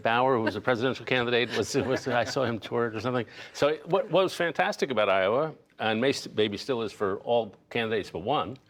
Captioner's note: laughter